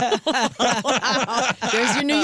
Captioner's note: laughing